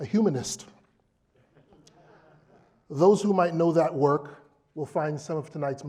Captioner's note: laugh